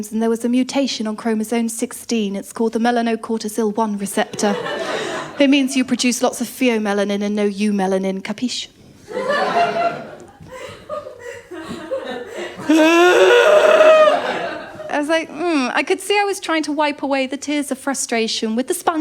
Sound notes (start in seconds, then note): 4.3 laughter; 9.1 laughter; 12.6 crying